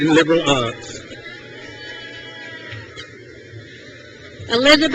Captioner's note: crowd cheers